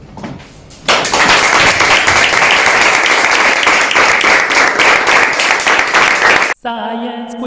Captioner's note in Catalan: aplaudiments